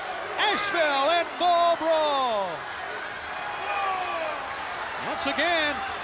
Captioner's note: crowd cheering